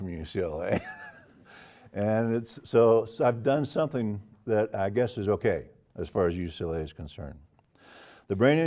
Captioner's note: laugh